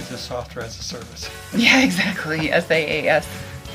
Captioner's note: laughs